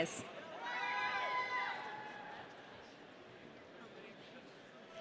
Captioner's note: audience cheering